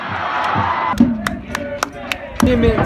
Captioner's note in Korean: 짝짝짝짝짝